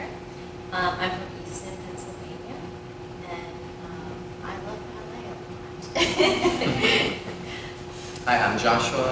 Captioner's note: laughter